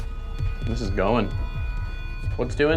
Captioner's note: machine buzzing